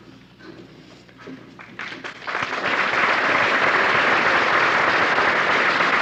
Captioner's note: applause